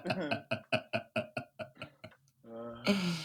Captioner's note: laughing